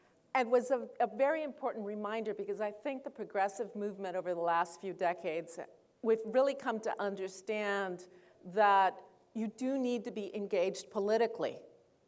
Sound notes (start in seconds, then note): none